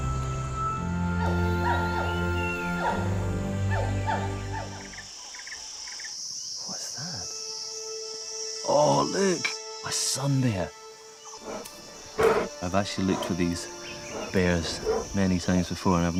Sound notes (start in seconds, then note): 1.6 animal squeaks; 11.3 bear snorts